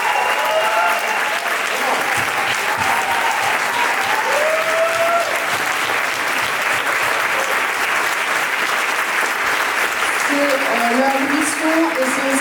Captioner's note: applause